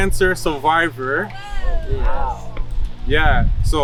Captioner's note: background cheers